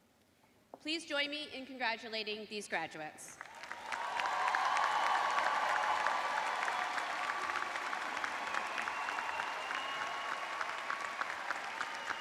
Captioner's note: cheers and applause